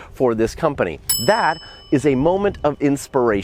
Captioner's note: ding